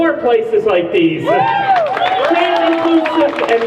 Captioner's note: crowd cheers